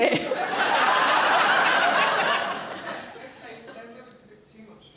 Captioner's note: audience laughing